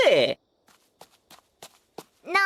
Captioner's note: someone comes running